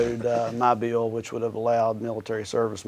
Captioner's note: chuckles